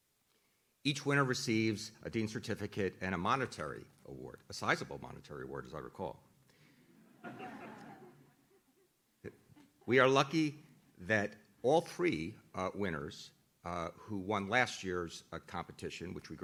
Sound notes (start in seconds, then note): 6.9 audience laughs